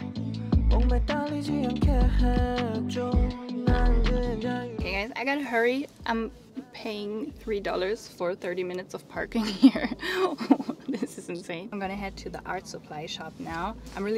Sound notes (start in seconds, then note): 0.3 chill music; 9.4 laughs